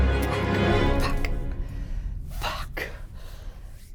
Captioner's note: whispering